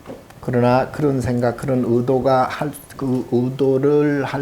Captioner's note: speaking Korean